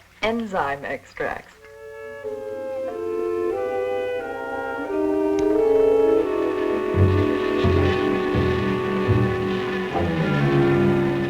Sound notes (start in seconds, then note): 2.1 mysterious music; 6.3 buzzing